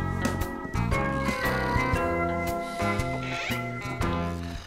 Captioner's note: snoring